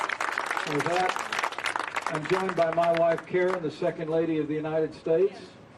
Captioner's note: applause